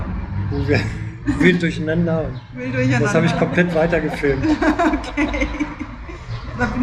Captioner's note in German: gelächter